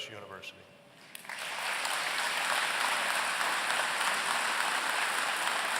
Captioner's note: applause